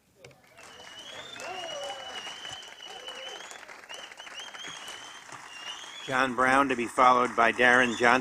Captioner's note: applause